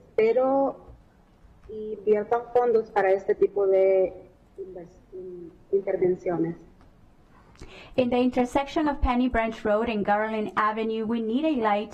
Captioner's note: speaking spanish